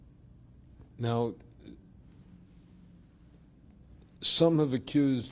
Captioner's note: pauses for 3 seconds